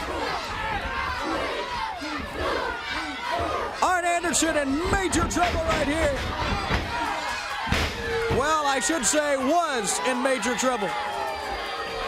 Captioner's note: crowd cheering